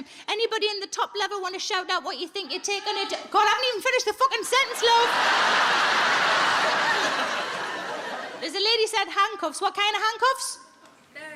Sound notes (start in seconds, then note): 2.9 audience member shouts; 4.5 audience laughs